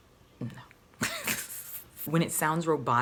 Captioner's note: laughing